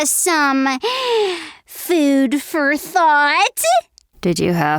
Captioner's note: gasps